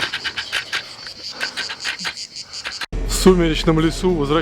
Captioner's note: murmuring